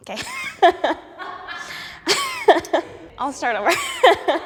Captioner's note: laughs; laughing off screen